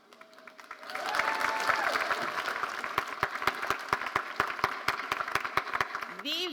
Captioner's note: audience cheering and applauding